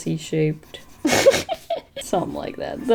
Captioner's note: laughs